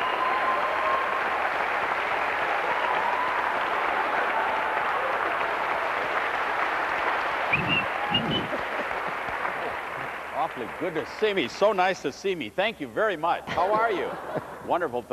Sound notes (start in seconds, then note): 7.4 whistles